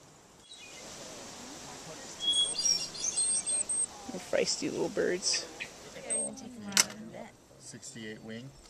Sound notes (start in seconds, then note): 2.1 birds chirping